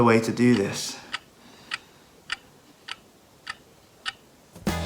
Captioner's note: clock ticking